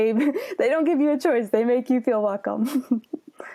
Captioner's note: laughs